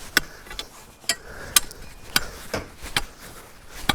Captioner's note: shoveling